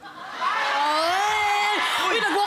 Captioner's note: audience cheering